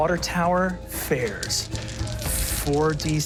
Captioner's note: dice clinking